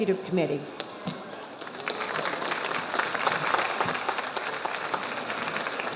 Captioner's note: audience applauding